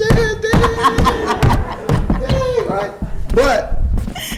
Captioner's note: footsteps stomping